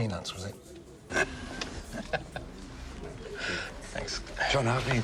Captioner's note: both laughing